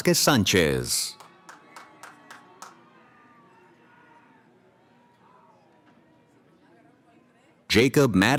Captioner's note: cheering